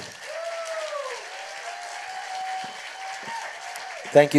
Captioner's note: applause